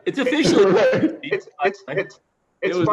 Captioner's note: laughter